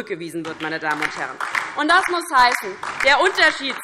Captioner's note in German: Beifall DIE LINKE